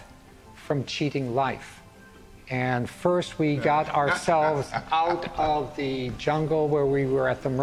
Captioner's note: laughs amused